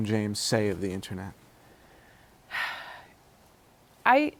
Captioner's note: sighs